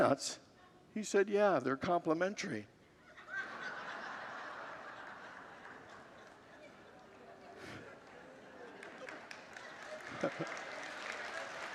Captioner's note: congregants laugh and applaud